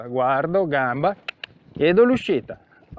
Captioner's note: cluck